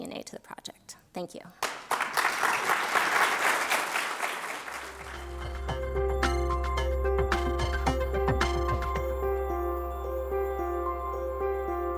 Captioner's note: applause